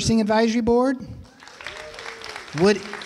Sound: applause

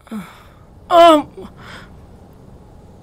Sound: cries out in pain

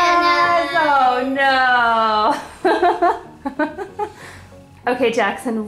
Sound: laughs

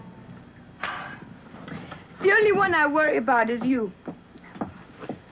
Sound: sighs

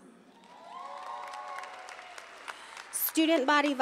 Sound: audience cheering

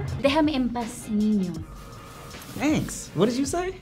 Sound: in Spanish

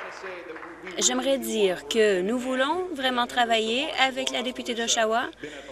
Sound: applause

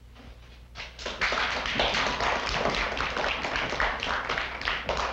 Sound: applause

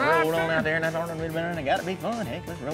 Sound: auction voice

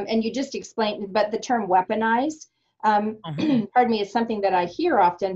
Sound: clears throat

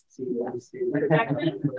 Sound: electronically garbled speaking

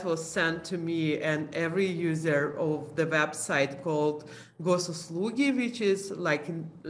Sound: non-english speech

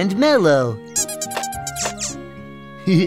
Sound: Melo squeaks

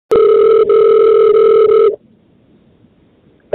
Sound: phone ringing

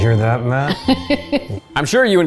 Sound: chuckles

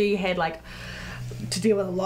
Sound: deep breath in

